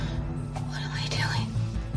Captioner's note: whispers